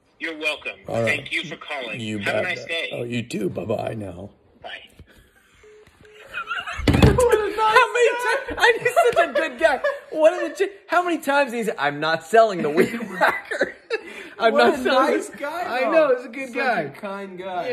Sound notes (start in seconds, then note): 5.5 phone beeps; 6.1 laughs